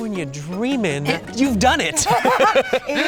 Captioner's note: both laughing